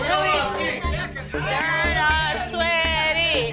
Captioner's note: customers talking